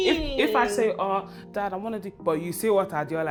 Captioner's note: imitates dad